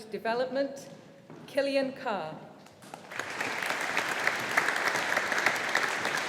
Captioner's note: audience applauding